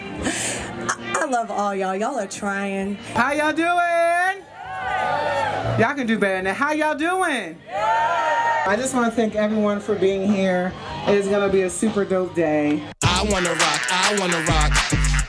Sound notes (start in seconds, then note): 4.4 cheering; 7.6 cheering